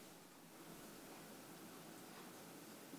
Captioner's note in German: Fernes Surren einer Maschine